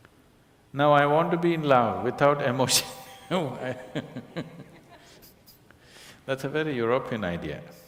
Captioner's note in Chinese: 笑聲